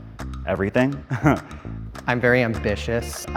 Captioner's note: chuckles